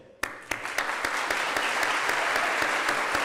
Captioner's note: applause